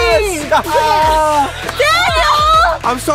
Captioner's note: laughing